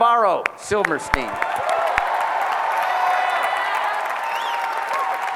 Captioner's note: applause